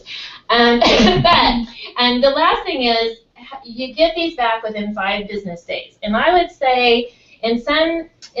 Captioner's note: laugh